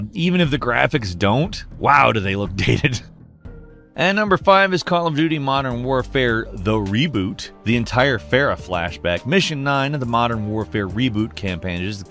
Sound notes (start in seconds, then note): 3.4 laughs